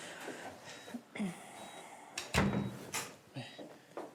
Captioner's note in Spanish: sonido al cerrar la puerta